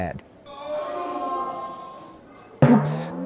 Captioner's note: people in audience groan